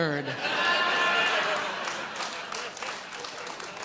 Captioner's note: audience laughs